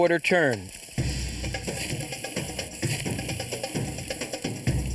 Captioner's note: meat sizzling